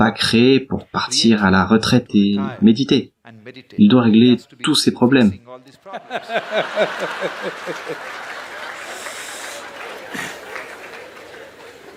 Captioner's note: laughs; applause